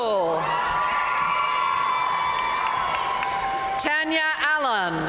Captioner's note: audience cheering and applauding